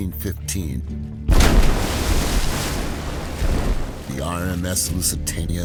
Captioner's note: torpedo booming